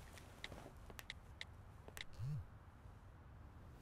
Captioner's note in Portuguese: som de teclas; celular vibra